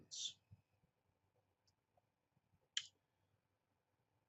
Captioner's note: pause